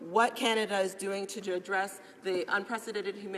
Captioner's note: speaking english